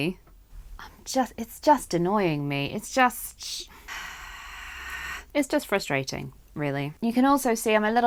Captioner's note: hhrggghh